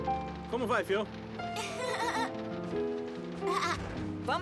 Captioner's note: chatter